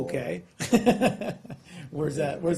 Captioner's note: laughter